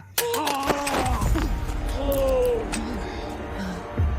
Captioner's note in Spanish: Quejidos